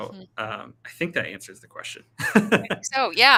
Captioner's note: laughing